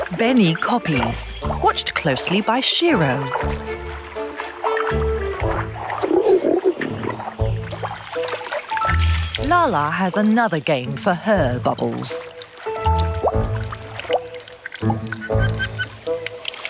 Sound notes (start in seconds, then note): 6.0 orangutan grunting; 13.5 upbeat quirky music